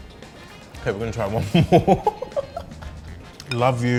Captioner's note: laughing